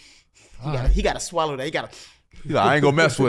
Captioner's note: inhales